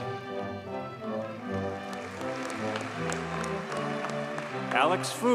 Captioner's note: audience cheers and applauds